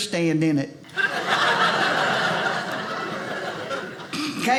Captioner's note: audience laughing